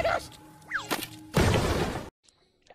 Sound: stupid explosion bullshit

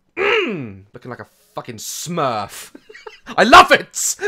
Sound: laughs

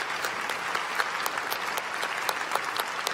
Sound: applause

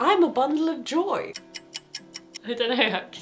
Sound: clock ticking

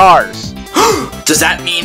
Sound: gasp

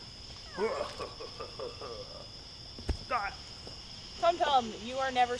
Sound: maniacal laugh

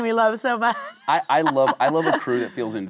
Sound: Kate laughing

